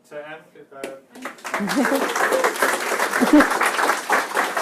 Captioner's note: applause